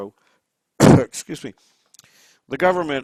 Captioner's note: coughs